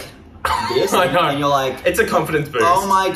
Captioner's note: laughs